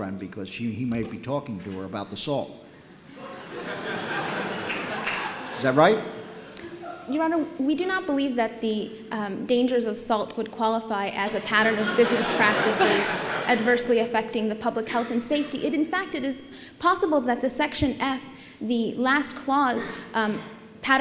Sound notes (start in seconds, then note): 3.1 laughter